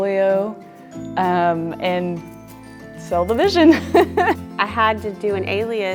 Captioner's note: laughs